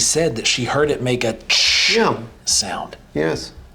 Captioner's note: imitates static crackling